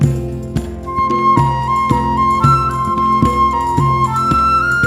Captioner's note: none